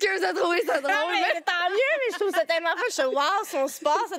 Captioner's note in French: rires